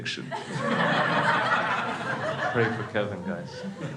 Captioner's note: crowd laughs